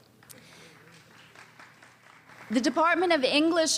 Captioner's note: small applause